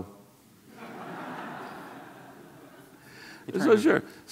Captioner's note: audience laughs